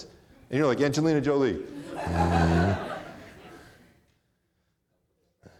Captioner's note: audience laughing